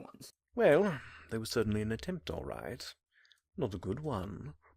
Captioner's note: sigh